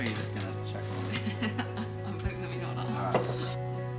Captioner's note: laughs